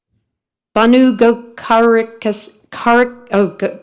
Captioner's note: stammers